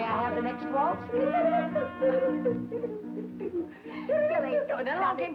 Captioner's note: Billy humming